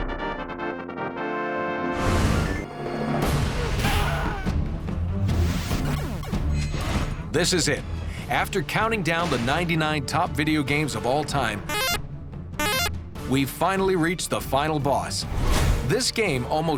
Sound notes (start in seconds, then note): 3.6 screaming; 12.5 arcade sounds